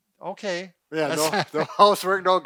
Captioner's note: laughing